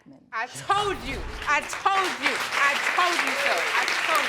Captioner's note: applause